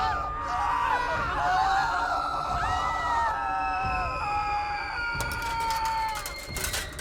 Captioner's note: people continue screaming; dramatic music